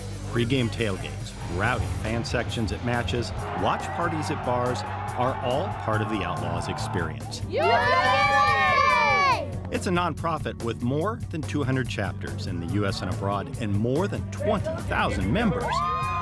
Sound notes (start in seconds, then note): 7.4 everyone cheers